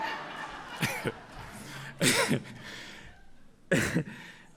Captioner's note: audience laughs